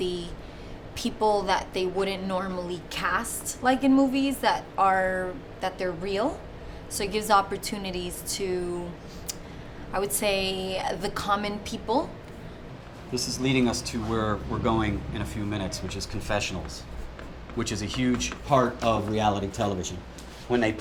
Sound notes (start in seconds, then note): none